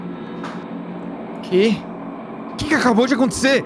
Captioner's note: none